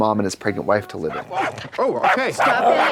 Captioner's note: dog barking